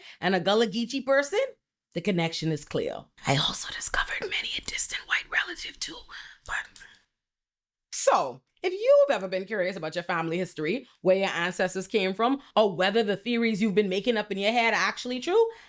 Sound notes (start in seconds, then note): none